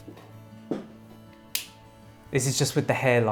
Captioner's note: switch clicking